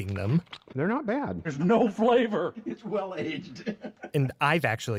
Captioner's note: laughs